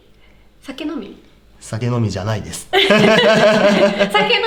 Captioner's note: laughs